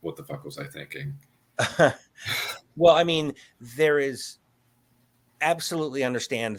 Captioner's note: chuckles